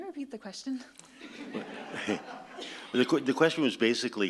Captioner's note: audience laughs